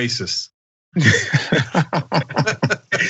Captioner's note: laugh